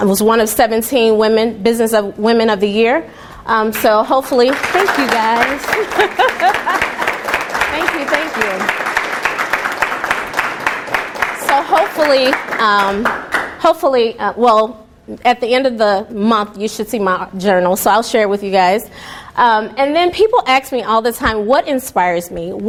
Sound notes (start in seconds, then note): 4.7 laughing; 4.7 applause